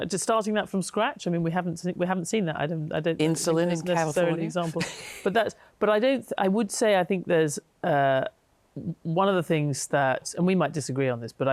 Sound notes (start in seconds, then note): 4.1 chuckles